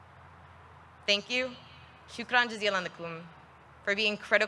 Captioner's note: speaks in foreign language